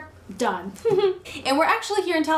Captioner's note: laughs